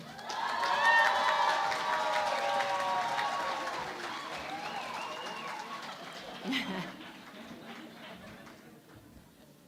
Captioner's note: cheering and Applause